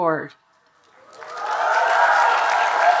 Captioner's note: audience cheering and applauding